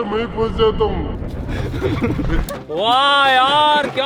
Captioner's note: laughing